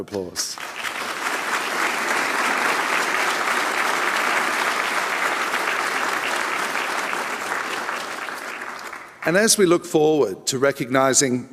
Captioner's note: applause